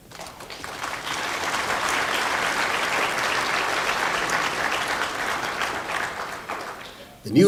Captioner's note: applause